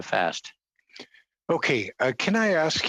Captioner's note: speaking French